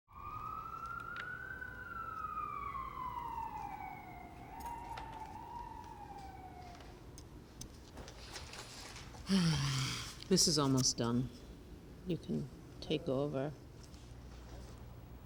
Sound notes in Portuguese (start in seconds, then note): 0.0 sirenes à distancia; 9.2 suspira